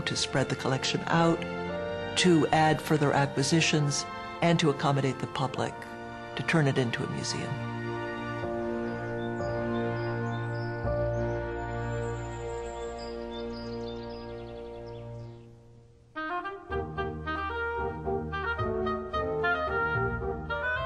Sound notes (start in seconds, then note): 8.3 brids chirping; 16.2 lighthearted orchestral music